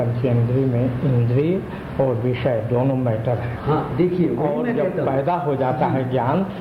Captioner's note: discussion in Hindi